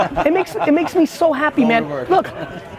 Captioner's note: laughs